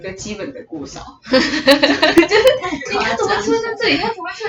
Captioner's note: laughter